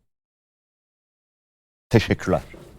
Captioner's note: silence